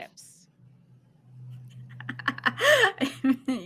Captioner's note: laughs